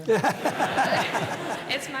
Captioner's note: laughter